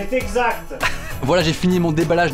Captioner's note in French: rire